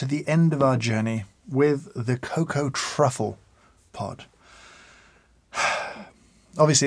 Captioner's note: sighs